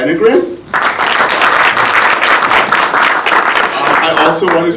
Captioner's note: audience applauding